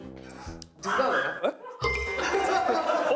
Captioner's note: barking